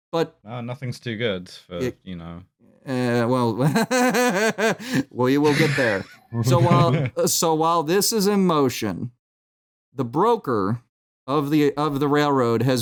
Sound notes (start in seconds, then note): 5.4 laughs; 5.4 laughter